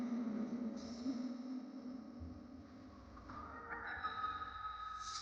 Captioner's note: animals calling faintly